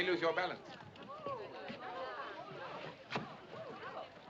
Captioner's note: Murmuração continua